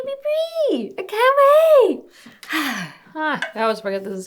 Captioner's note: sighs